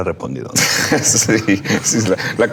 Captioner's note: laughing